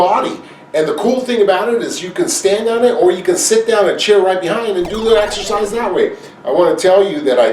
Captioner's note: video game noise